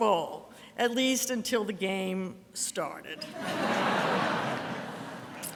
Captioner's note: audience laughter